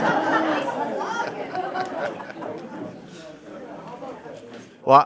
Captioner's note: laughter